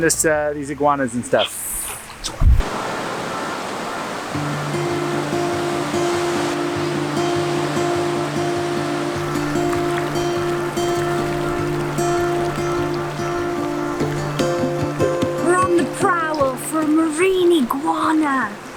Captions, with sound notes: these iguanas and stuff. - Yes! (calm music) (waves crash) We're on the prowl for marine iguana.